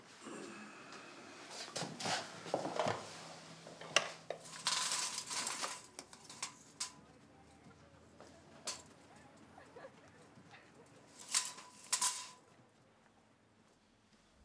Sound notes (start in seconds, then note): 9.5 laughter